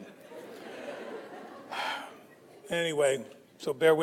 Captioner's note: audience laughs